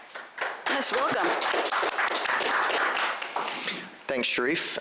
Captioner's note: applause